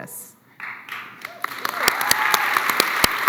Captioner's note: applause